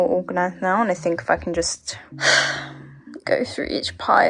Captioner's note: sigh